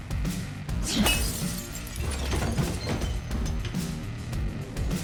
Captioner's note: bottle shatters